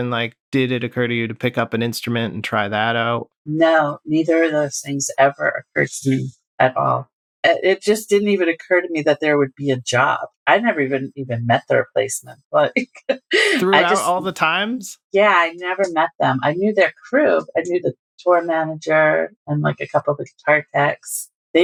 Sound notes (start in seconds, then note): 13.1 laughter